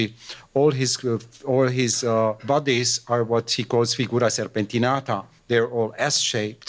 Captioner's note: italian